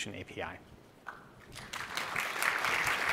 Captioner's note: applause